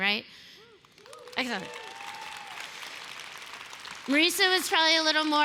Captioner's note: applause